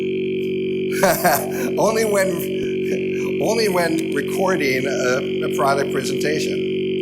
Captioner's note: laughs